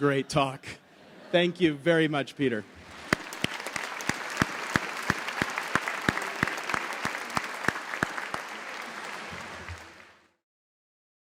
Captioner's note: applause